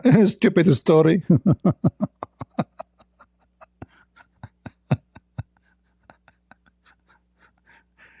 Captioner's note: Ketawa